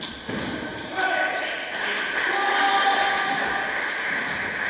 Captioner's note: applause